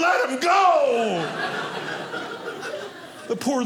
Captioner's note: audience laughing